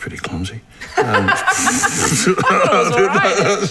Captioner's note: Alice laughs